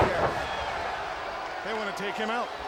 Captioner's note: body thudding; crowd cheering